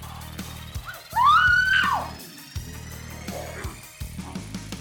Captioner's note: screaming